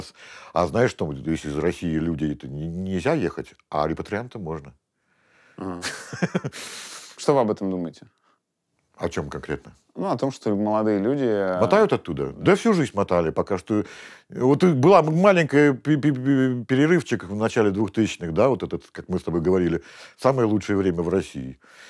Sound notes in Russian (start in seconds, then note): 5.6 смеется